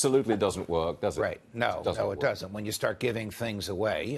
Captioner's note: laughter